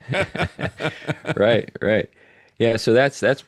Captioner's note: laughing